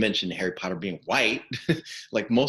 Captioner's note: chuckling